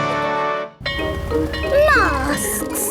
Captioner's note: bell ringing